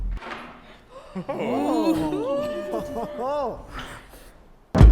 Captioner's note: all gasping, laughing